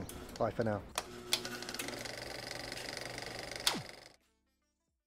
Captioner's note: film projector noise